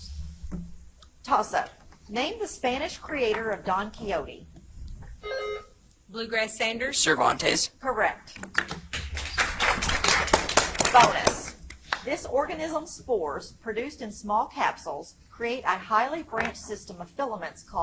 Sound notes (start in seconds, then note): 5.2 buzzer chimes; 8.8 audience applauds